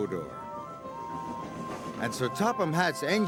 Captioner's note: toot toot